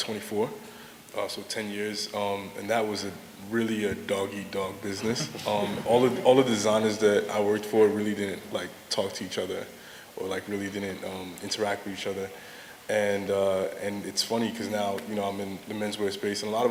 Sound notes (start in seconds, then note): 5.0 laughter